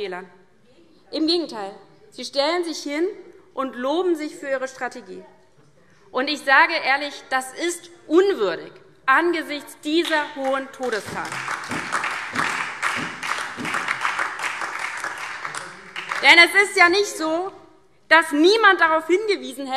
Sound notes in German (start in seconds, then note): 10.4 Beifall DIE LINKE, SPD und Freie Demokraten